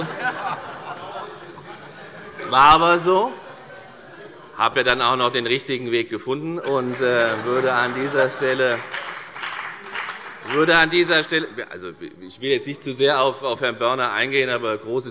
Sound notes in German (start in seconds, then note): 3.3 Heiterkeit; 6.6 Beifall bei der FDP